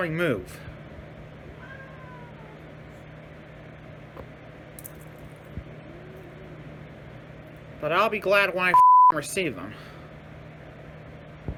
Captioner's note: Caprice meows in anger